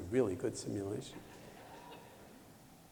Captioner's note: laughter